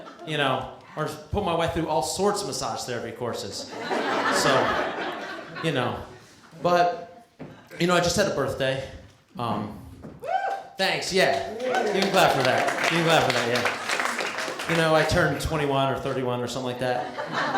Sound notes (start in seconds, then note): 3.6 laughter; 11.2 clapping